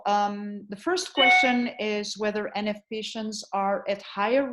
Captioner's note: ding